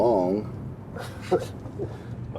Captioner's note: George Jr. Chuckles